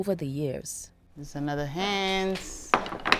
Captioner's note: bracelet hits table